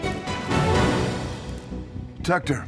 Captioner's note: light buzzing